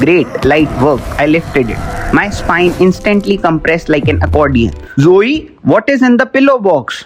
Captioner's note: straining